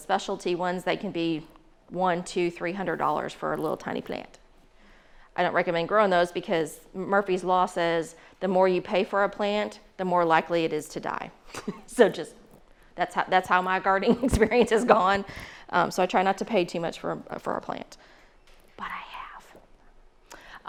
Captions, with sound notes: that can be one, two, $300 for a little tiny plant. I don't recommend growing those because Murphy's law says "The more you pay for a plant, "the more likely it is to die." So (chuckles) that's how my gardening experience has gone. So I try not to pay too much for a plant, but I have.